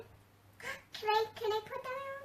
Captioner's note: gasps